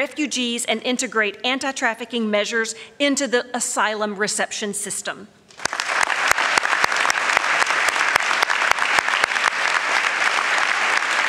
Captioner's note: applause